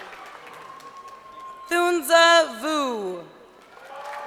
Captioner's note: crowd cheering